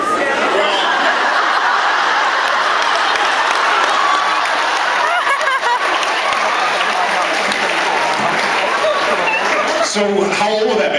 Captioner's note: laughs, applauds; laughs